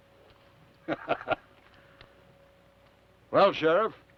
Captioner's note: Theodore laughs